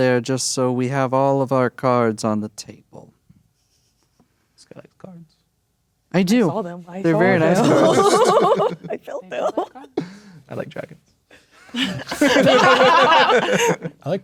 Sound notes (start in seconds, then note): 7.2 laughing; 11.6 players laughing